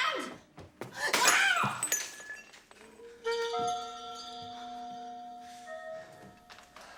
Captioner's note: glass shatters